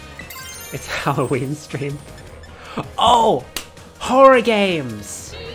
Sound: clap

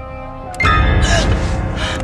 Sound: dimmer switch off; yelps

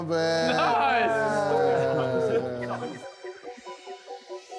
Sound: men cheer; techno music plays

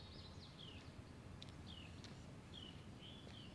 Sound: birds chirping

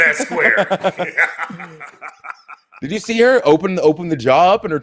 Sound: laugh

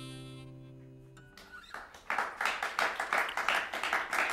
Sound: applause

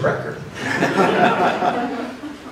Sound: laughter

